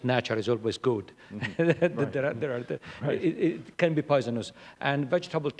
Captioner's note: laughter